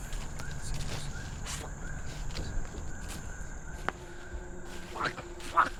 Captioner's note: Dogmouth grumbling and cursing